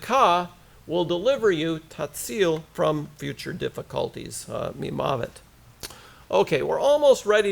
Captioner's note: hebrew